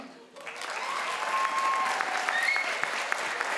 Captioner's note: crowd applauds